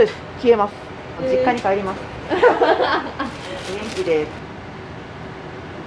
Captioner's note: laughter